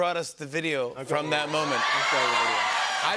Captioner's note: audience cheering